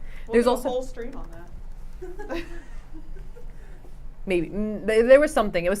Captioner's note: laughs